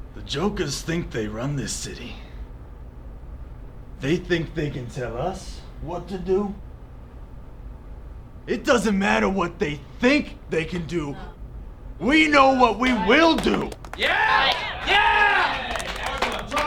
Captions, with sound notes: THE Jokerz THINK THEY RUN THIS CITY. THEY THINK THEY CAN TELL US WHAT TO DO? IT DOESN'T MATTER WHAT THEY THINK THEY CAN DO... ...WE KNOW WHAT WE WILL DO! [CHEERING AND APPLAUSE]